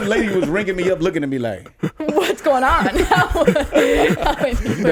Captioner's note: laughs